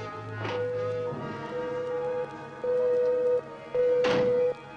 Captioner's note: machine beeping